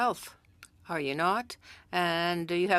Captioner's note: speaking french